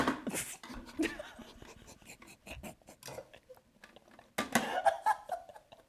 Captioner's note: laughing